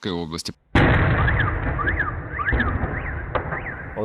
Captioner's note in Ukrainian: звуки вибухів